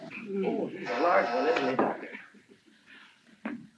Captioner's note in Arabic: صوت الباب